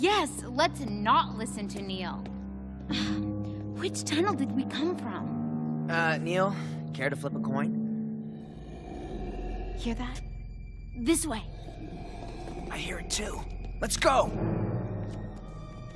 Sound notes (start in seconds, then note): 8.2 growling